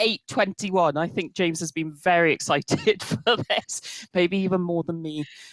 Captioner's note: chuckles